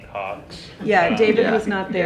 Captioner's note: all chuckle